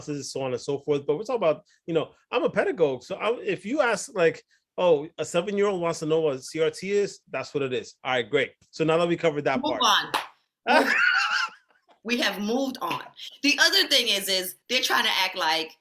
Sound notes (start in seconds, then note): 10.6 laughs